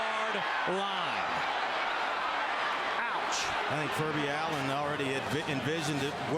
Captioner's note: crowd noise